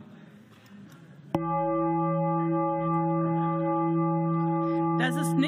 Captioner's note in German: Gong